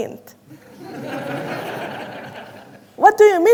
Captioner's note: audience laughing